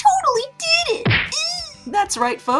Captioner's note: stock punch sound; Eddie squeals